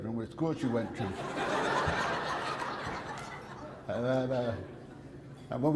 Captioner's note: audience laughter